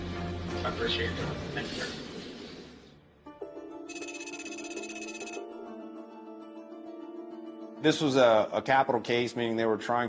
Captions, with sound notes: (gentle music) (rapid electronic beeps) - This was a capital case, meaning they were trying to